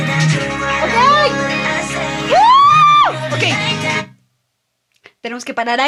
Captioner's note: screams